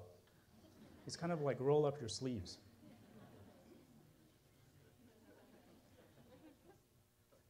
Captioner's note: laughter